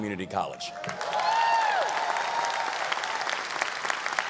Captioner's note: audience applause